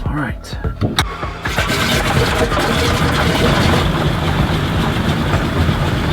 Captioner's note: plane engine starting